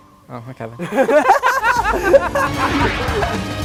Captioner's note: laughter